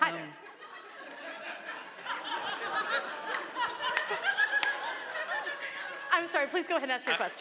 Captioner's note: laughter in response to captioner's remark